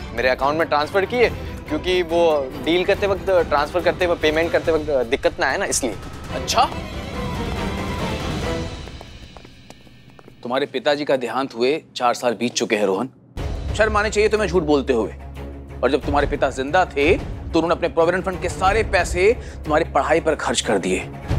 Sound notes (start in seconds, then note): none